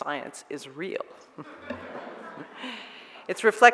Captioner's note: audience laughs